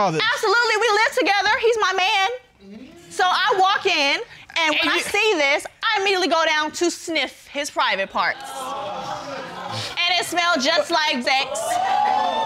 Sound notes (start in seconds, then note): 8.3 audience exclaims